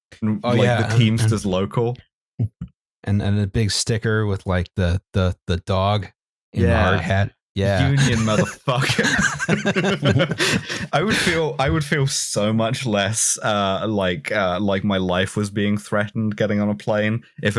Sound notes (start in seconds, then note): 9.4 laughter